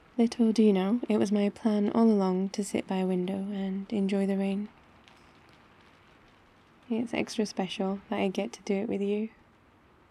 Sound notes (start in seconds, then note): none